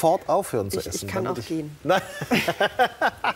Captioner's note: both laugh